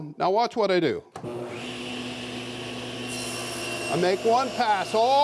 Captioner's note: machine revving